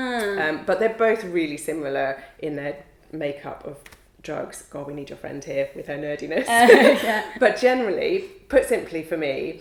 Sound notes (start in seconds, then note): 6.4 laughs